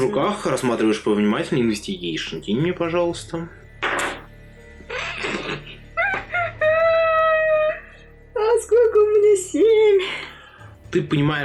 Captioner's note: sad laughter